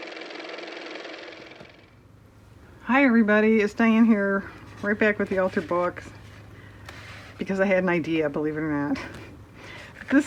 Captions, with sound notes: (car motor) Hi everybody. It's Diane here right back with the altered book because I had an idea, believe it or not.